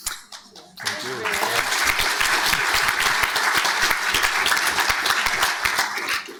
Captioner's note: panel and audience clapping